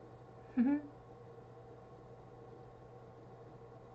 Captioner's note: giggle